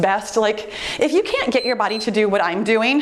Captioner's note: timer beeps